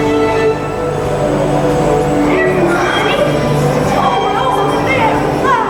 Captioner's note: voice of Judy Garland as 'Dorothy'